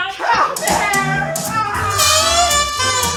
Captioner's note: mrs hardcastle wails